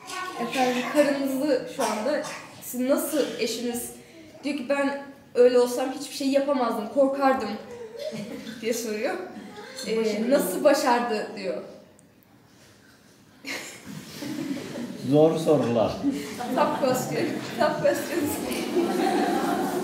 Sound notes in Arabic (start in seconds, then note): 0.1 بالتركية; 13.5 بالتركية; 13.5 ضحك; 18.9 ضحك